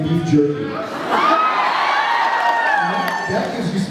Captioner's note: cheers